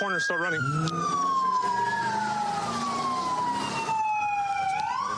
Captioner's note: engine revving